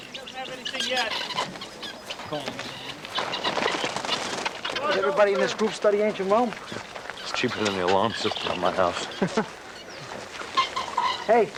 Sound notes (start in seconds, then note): 2.0 birds squawking; 9.2 chuckles